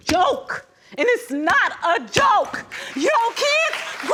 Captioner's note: thumping fist; audience applauds